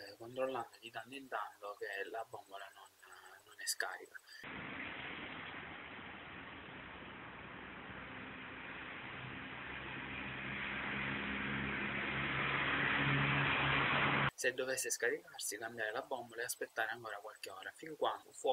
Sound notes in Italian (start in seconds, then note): 4.4 rumore di balcone